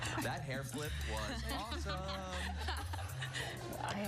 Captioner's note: laughter